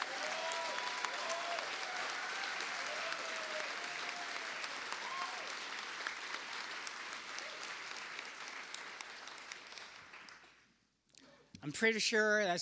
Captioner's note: cheers and applause